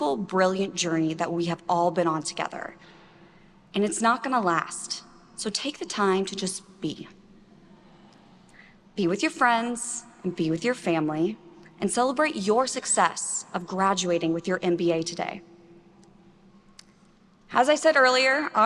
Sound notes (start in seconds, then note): none